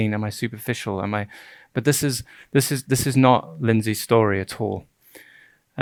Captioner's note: stuttering